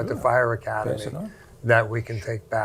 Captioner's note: group laughing